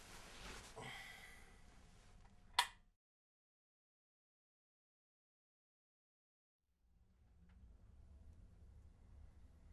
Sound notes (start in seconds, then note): 2.5 lamp clicking